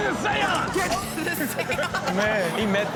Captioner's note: laughing